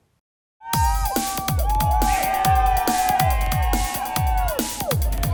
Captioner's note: cheering; rave music